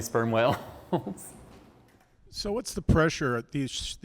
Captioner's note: laughter